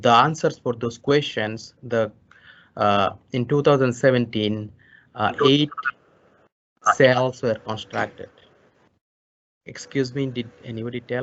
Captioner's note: distorted voices